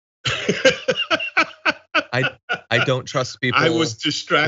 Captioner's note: laugh